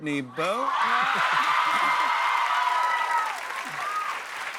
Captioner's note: cheers and applause